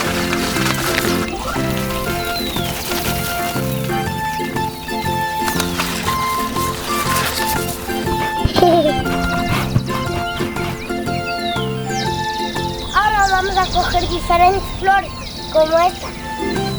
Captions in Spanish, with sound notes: (risa) Ahora vamos a coger diferentes flores como esta.